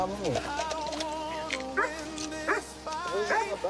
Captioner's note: dog barks